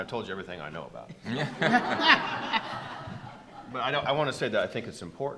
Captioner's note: attendees laughing